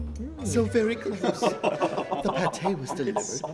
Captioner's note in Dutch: mannen lachen